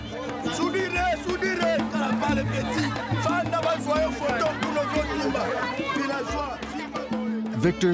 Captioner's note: foreign language